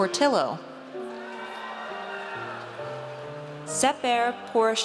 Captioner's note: audience cheers